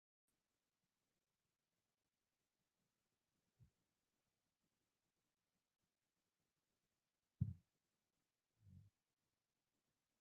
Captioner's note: silence